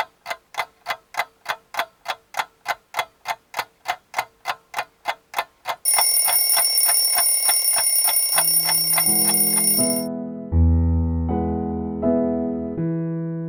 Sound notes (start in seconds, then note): 5.8 alarm clock rings